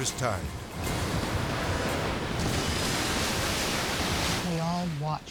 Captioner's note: edgy dramatic music; waves exploding